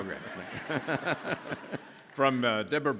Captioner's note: all laughing